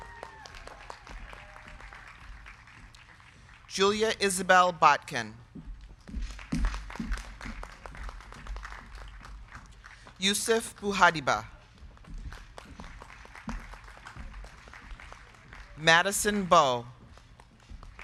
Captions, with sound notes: (crowd cheering) (crowd clapping) Julia Isabel Botkin. (crowd clapping) Youssef Bouhadiba. (crowd clapping) Madison Bowe.